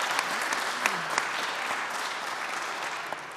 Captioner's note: audience applauding